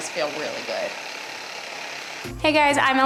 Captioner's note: whirring sound